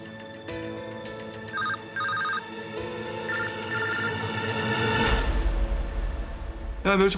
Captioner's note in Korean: 휴대전화벨 소리